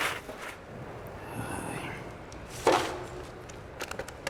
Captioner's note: sighs